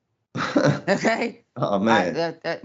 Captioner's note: laugh